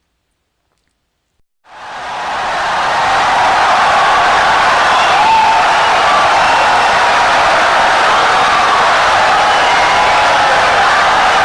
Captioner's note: wild applause and cheering for 17 seconds